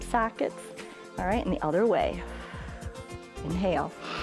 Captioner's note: exhales; inhales